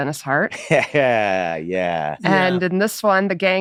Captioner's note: laughs